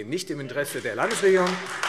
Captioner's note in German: Beifall Freie Demokraten